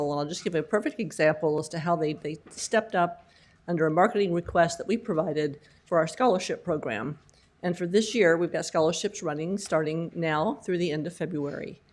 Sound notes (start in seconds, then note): none